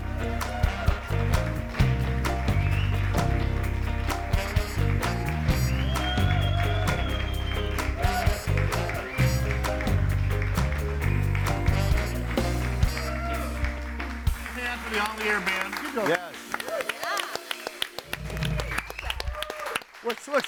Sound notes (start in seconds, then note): 0.1 audience applauding; 0.1 upbeat music; 5.0 audience cheering and applauding; 17.6 all clapping